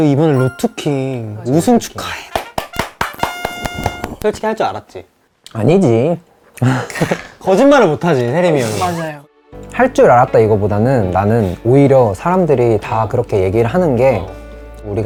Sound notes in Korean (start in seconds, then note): 2.3 짝짝 / 짝짝